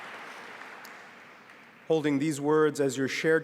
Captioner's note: applause